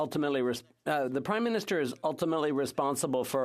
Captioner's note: speaking French